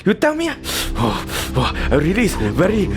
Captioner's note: heavy breathing